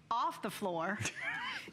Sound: laughter

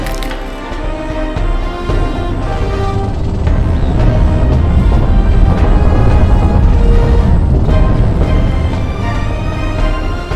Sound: even more rumbling

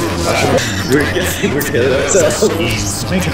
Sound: laughs

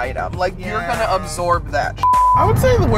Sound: beep

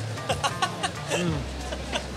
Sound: laughs

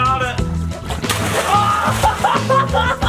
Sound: water splashing; laughing

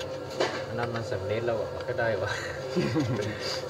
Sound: guide speaking in Thai; laughter

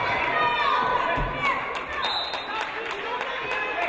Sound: audience cheering; referee blows whistle

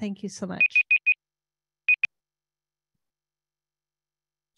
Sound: timer beeping

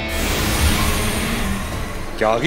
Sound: sound effect playing

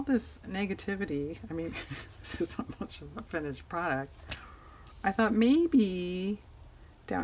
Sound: laughs

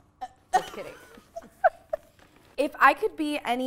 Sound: laughing

